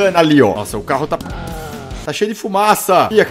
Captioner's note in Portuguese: VRUUUM, barulho do carro